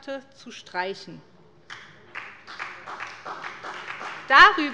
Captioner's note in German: Beifall bei der SPD